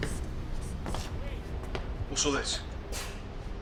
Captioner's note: marker squeaking